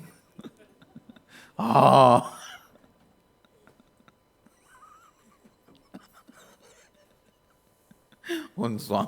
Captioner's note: laughs